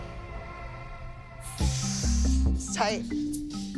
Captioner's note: inhales